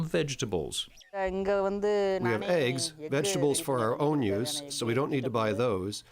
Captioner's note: through translator